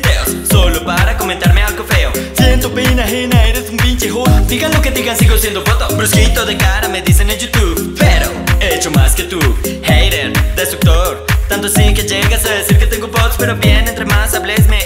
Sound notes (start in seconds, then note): 3.9 delay voice